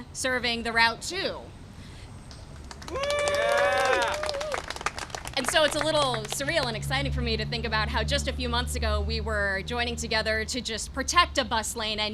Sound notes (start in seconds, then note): 2.5 applause and cheering